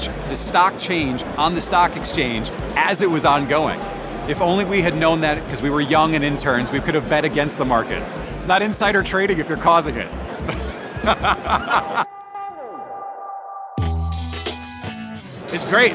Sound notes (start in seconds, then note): 10.4 laughter; 13.9 upbeat music